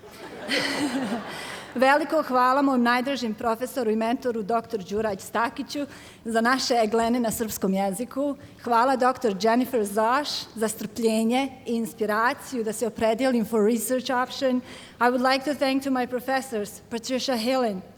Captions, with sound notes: [ Laughter ] [ Foreign Language ] I would like to thank to my professors, Patricia Hillen,